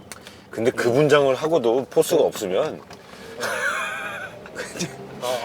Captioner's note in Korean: 웃음